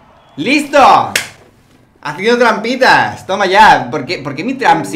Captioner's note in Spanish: palmadas